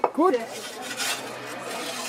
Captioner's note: babble of voices